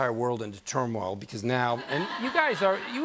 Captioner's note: laughter